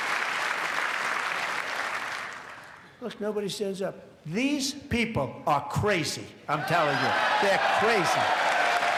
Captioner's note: applause